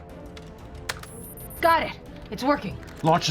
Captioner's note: typing